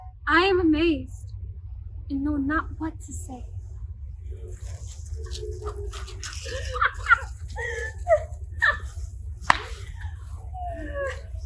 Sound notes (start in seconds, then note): 6.8 Puck laughing